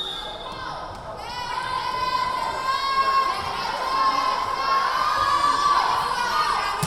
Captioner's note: whistle blowing; yelling